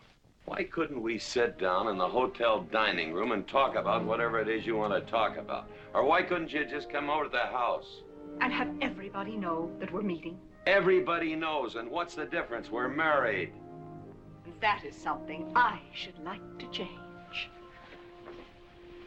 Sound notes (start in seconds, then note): none